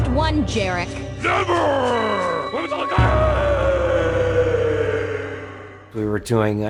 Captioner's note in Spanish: Grita